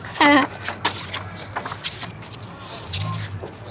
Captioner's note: chuckles